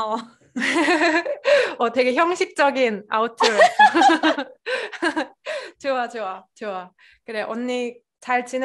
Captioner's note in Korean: 웃음